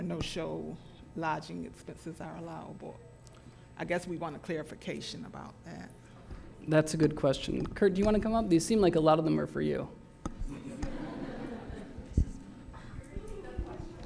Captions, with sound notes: no-show lodging expenses are allowable. I guess we want a clarification about that. - That's a good question. Kurt, do you want to come up? They seem like a lot of them are for you. (laughter)